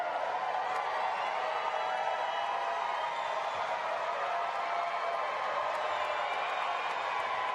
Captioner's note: cheering and applause